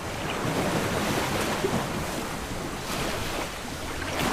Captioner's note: waves splashing